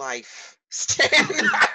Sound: laughs

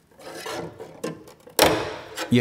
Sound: cracking

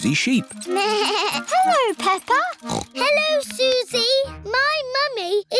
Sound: bell ringing; snorts; bleats

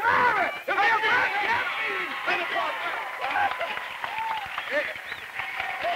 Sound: crowd cheers drowning out Shuttlesworth

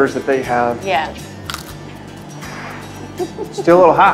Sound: potato chip crunches

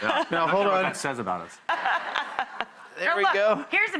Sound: laughing

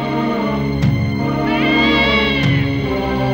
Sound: cat yowling

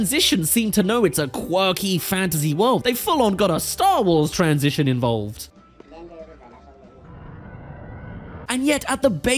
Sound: Star Wars transition

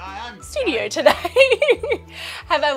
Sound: she laughs

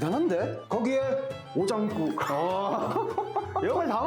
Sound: laughing out loud

